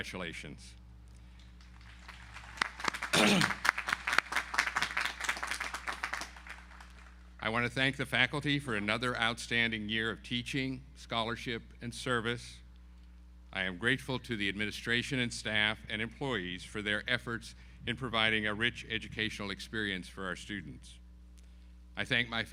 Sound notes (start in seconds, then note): 1.6 audience applauding